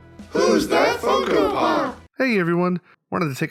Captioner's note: crowd